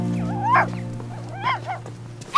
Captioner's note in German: Kläffen